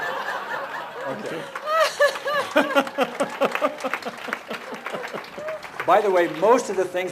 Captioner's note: couple and audience laughing